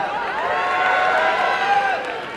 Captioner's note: applause and cheering